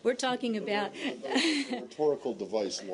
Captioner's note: laughter